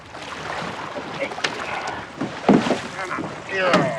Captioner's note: grunting